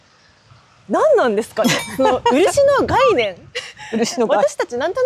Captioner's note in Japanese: 笑い